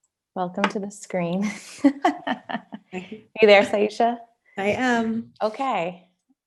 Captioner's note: laughter